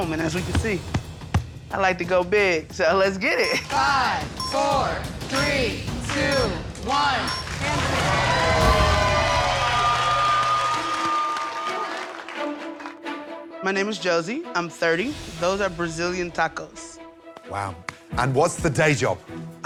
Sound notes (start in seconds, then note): 7.1 cheering